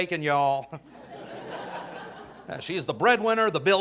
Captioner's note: audience laughing